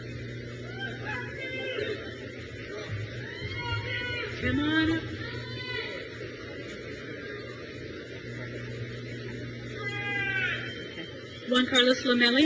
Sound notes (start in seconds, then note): 0.5 crowd cheers